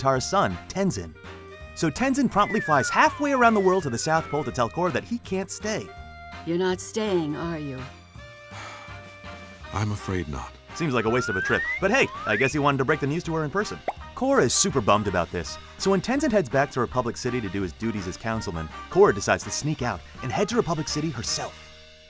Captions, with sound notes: from Aang and Katara's son, Tenzin. So, Tenzin promptly flies halfway around the world to the South Pole to tell Korra that he can't stay. You're not staying, are you? [sighing] I'm afraid not. Seems like a waste of a trip. But hey, I guess he wanted to break the news to her in person. Korra is super bummed about this. So, when Tenzin heads back to Republic City to do his duties as councilman. Korra decides to sneak out and head to Republic City herself.